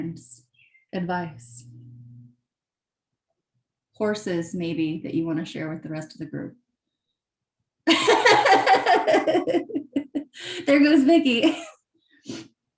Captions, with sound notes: horses maybe that you wanna share with the rest of the group. (laughs) There goes Vicky.